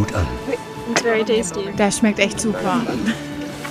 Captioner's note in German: englisch